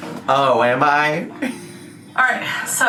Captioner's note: laughs